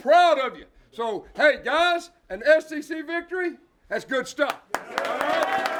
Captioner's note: cheers